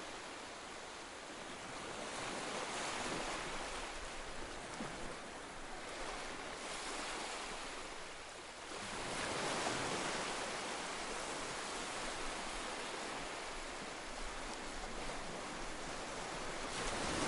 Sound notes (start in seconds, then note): 2.1 sounds of ocean waves lapping on the beach; 8.6 sounds of ocean waves lapping on the beach